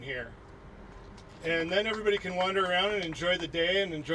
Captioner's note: applauding